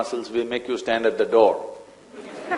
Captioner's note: laughter